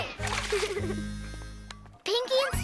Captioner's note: giggles